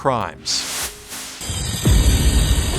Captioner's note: saw fizzes; screen hisses